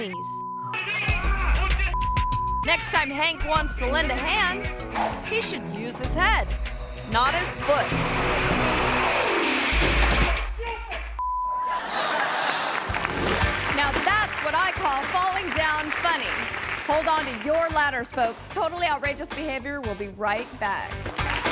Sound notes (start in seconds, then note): 0.2 both shouting angrily; 8.3 ladder crashing; 10.6 climber shouting; 11.6 audience laughing; 21.1 audience applauding